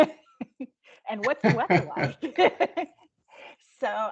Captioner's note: laughing